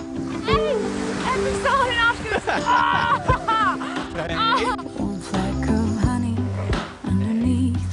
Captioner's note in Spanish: La risa